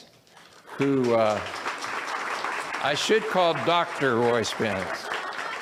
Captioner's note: audience applauds